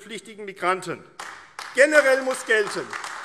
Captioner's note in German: Beifall AfD